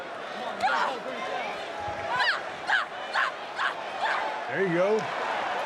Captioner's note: Bayley shouting